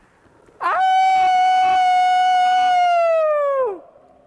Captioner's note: aullando